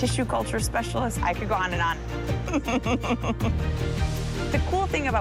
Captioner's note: laughs